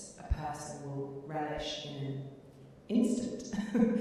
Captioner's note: chuckling